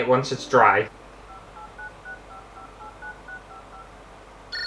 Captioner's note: phone Beeps; phone Ringing